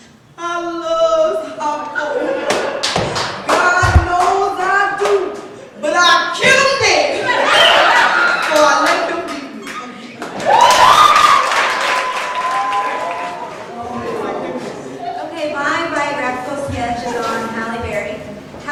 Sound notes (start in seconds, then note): 10.2 applause